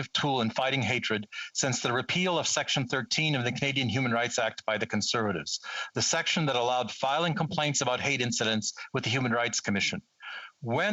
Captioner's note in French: voix de l'interprète